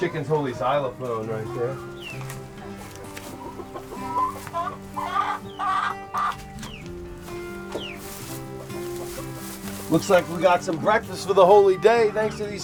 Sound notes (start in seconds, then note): 3.7 chickens clucking